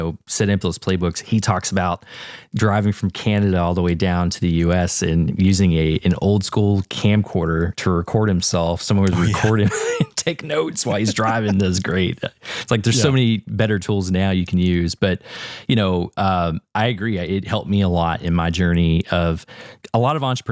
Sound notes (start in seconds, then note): 10.6 laugh